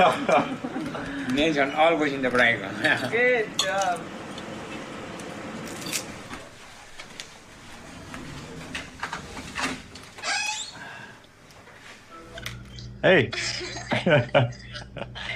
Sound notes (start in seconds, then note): 10.1 door opens, squeaks; 13.3 chuckles